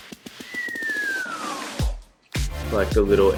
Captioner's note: he whistles